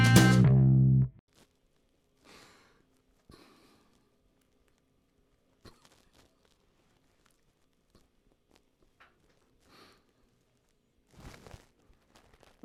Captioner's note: silence and a silly grin